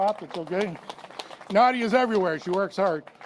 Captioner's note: applause